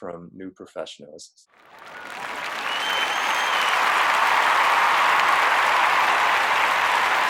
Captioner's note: clapping